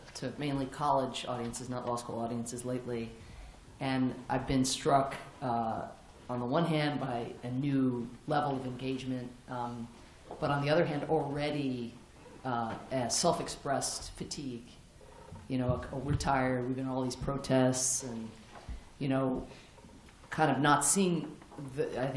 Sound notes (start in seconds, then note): none